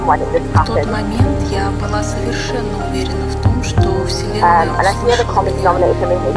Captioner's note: Russian